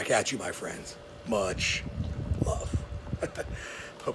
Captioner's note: chuckling